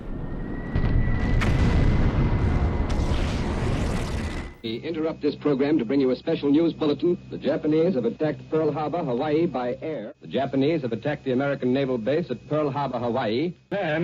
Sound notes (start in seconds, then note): 1.9 bombs exploding; 4.0 guns firing